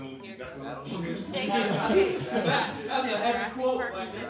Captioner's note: laughter